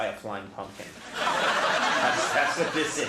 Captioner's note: audience roars